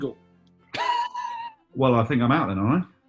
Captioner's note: sniggering